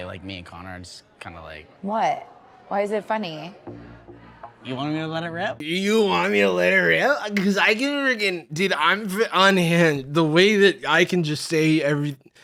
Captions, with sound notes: (slurring) "You want me to let it rip? 'Cause I can frickin'— Dude, I'm unhinged, the way I can just say...